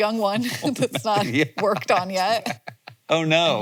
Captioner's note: both laughing